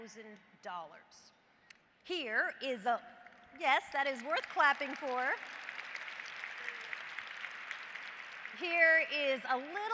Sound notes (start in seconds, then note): 7.5 applause